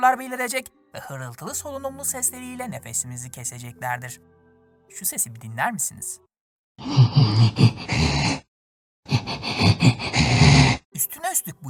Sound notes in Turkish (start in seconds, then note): 6.9 Hırıltılı solunum sesi